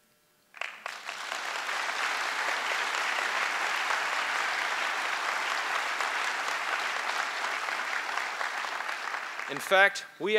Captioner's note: applause